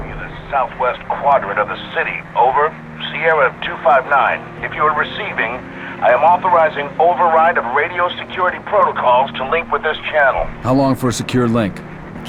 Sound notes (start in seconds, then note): 0.7 radio